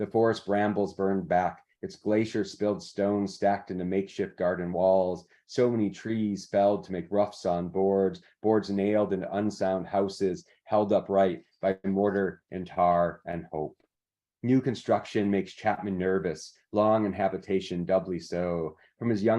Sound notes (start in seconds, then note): none